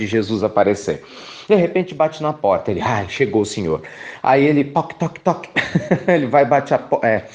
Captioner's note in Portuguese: risos